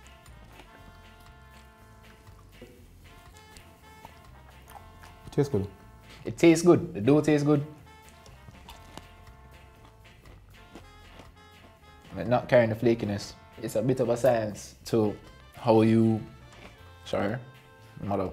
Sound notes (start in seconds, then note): 3.0 crunching; 9.5 crunching